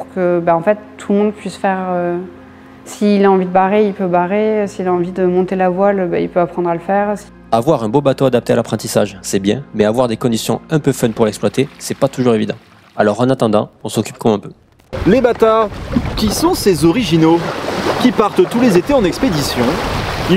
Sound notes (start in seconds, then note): 14.9 mimicking caricatural journalist accent